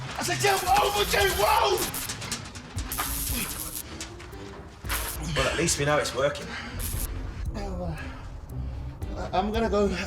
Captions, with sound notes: If I whoa, you must whoa! (electric sizzle) - Well at least we know it's working. - Oh, I'm going to go,